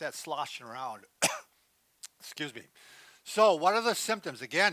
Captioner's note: coughs